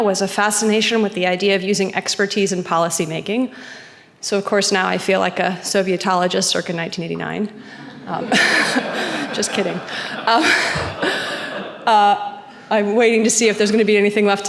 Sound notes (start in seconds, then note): 7.6 laughs; 7.7 audience laughing; 7.8 chuckles